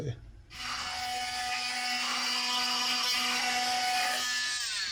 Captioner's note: grinder buzzing